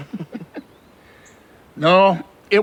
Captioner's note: both laughing